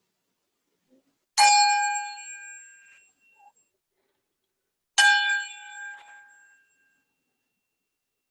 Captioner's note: rings a bell